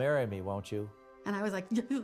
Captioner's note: stammering